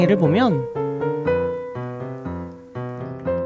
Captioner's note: rabbits nibble